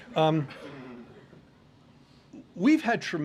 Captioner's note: laughter